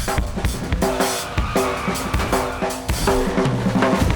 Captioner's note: tires screech